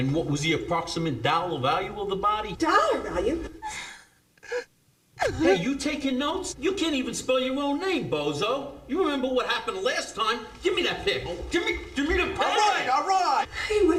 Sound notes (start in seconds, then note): 5.1 sobbing